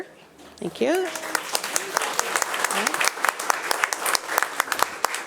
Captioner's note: attendees applauding